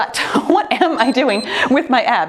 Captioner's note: timer beeps